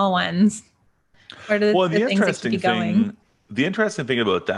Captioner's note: audio glitch